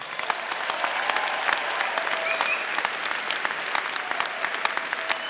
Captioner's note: audience applauding